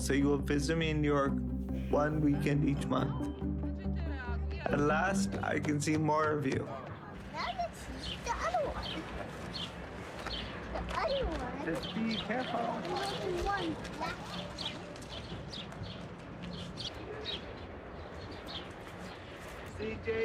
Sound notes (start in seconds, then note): 3.6 background conversation, footsteps; 9.5 birds chirping; 15.7 birds chirping